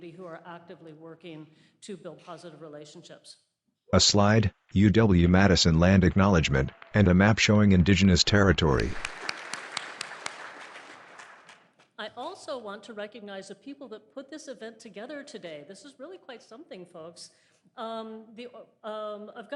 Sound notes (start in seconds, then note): 5.7 applause